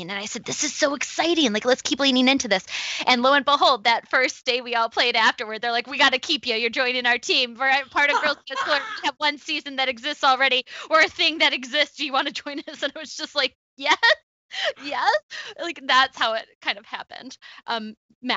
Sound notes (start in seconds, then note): 14.6 laughs